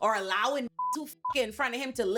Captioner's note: beep